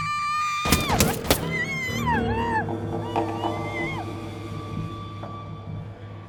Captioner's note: Maria screaming; bullet thumping; bullets thumping; Maria screaming